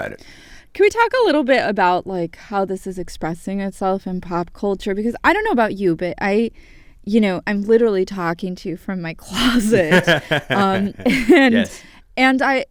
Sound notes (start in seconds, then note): 9.7 laughter